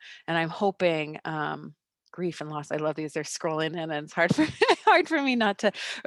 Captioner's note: laughes